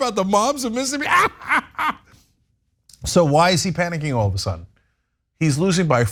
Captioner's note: laugh